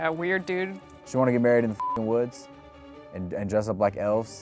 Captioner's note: beep